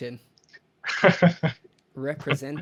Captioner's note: laughs